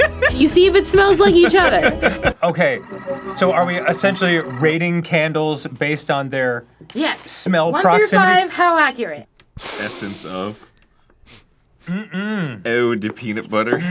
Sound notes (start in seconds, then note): 9.5 big sniff; 9.6 lil sniff